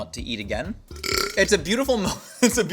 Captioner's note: Belch